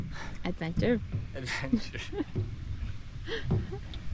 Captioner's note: laughter